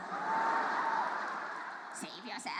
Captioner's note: audience laughs